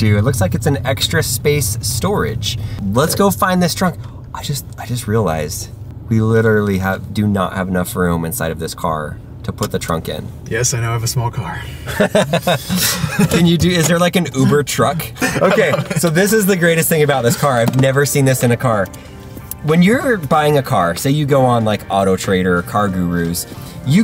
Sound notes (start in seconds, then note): 11.7 both laugh